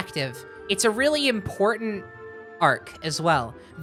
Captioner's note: none